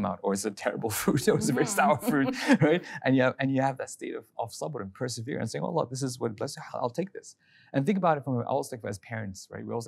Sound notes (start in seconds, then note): 1.3 both chuckling